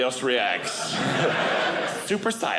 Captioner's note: audience laughing